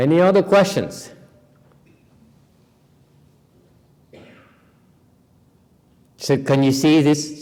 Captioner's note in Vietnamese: silence